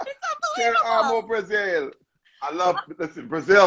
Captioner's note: non-english speech